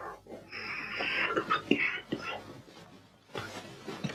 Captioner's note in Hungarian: beteges köhögés